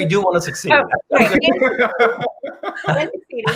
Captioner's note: laughs